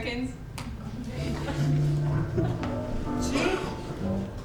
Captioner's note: snap